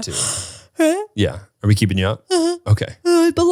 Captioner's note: yawns loudly